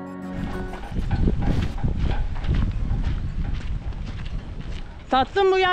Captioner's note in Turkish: Çekiç sesi